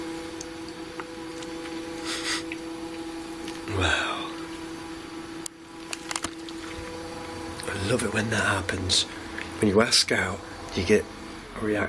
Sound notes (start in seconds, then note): 2.0 sniffles